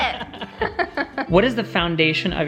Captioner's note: laughing